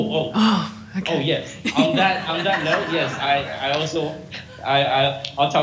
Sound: laughing

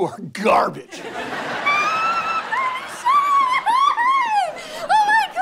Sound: squealing

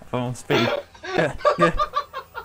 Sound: peddling grunts

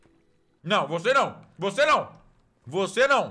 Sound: in Portuguese

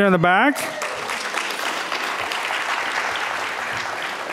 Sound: audience clapping

